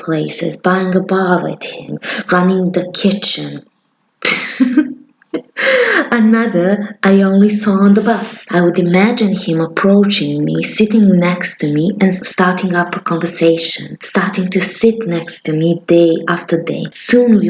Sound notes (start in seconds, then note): 4.3 laugh